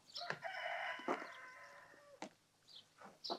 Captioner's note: cock-a-doodle-doo